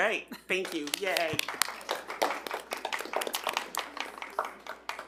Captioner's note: audience applauding